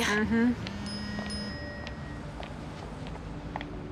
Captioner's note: phone chiming, buzzing